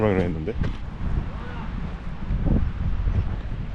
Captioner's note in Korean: 누군가 부름